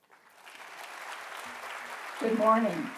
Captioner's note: audience applauding